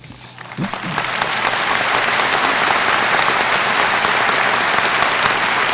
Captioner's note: applause